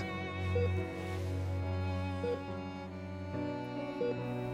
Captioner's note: heart monitor beeping